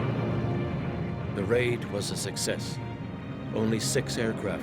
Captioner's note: voiceover